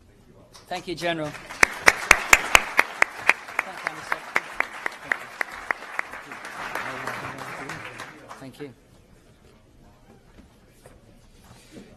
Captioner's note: applause